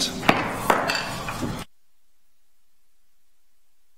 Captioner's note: gavel bangs